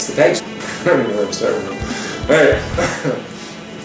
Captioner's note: chuckles